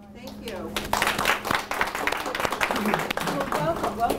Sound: applause

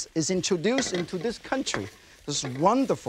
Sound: pan thuds softly

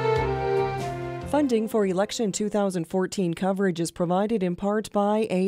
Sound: voiceover

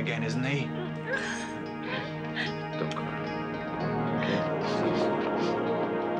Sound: woman crying

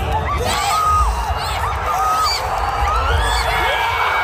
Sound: people clamoring

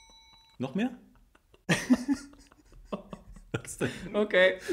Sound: laughs

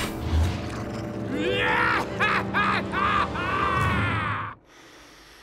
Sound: laughing

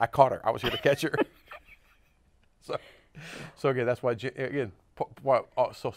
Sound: laughs

